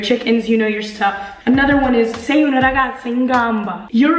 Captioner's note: speaking in Italian